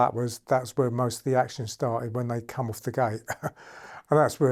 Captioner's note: laughs